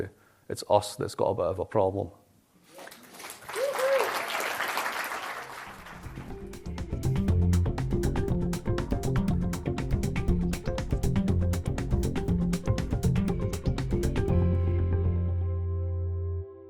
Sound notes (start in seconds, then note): 2.8 applause